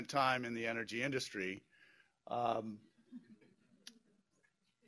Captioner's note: pause; laughter